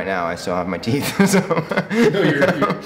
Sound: laughing

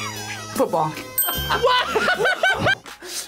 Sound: smooth jazz music; laughs

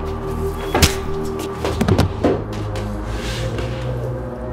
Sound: fist whacks

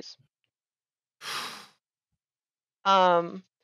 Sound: breathes out audibly

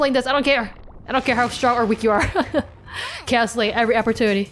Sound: laughs

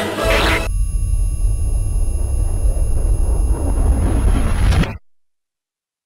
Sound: glitches

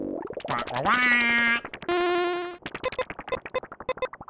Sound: commanding squawk

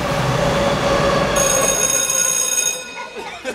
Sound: school bell rings; laughing

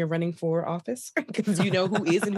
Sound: laughter

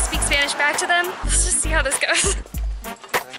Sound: laughter

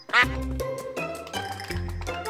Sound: quacking

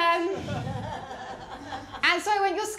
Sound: laughter

